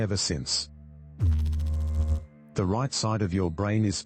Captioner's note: electrical noise